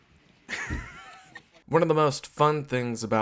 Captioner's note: laughing